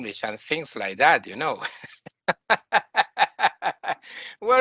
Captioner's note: laughing